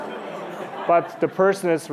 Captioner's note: laughter